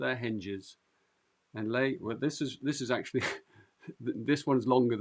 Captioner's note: chuckles